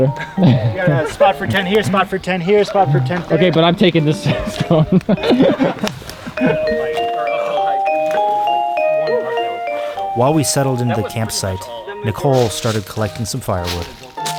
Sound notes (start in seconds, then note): 5.0 all laugh